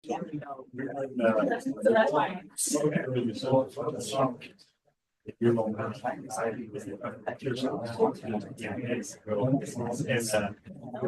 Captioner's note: crowd chatter